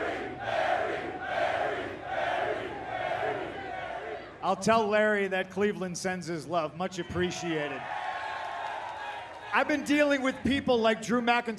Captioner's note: crowd chanting